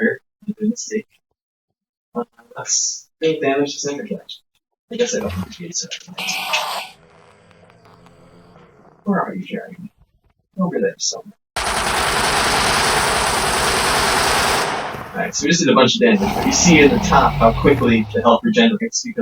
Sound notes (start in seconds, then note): 11.6 murderous noises